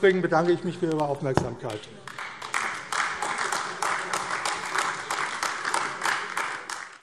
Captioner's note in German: Beifall AfD